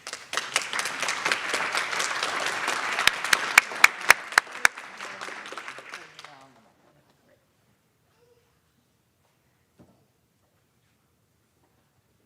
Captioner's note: applause